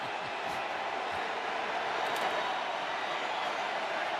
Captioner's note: crowd cheering